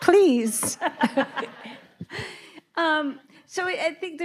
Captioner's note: both laughing